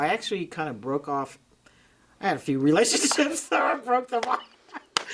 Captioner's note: hand smacking; both laughing